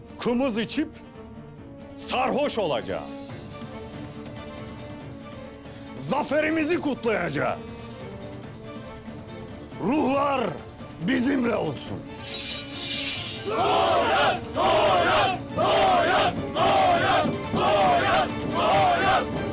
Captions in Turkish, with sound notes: …kımız içip sarhoş olacağız. Zaferimizi kutlayacağız! Ruhlar bizimle olsun. (Kılıç çekme sesleri) Noyan! Noyan! Noyan! Noyan! Noyan! Noyan!